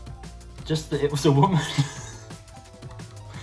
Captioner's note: laughs